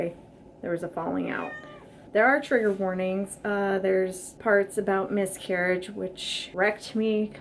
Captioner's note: cat meow